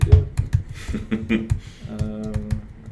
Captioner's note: laughs